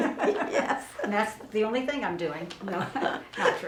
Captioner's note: both laughing